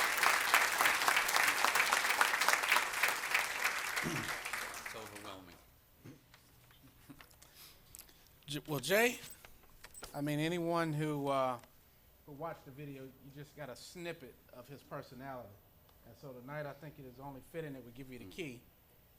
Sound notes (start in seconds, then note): 3.5 applause